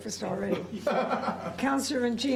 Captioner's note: laughter